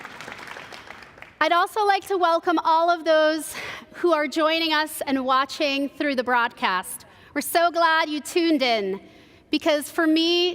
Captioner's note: applause